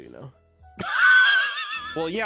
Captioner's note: shinwheeze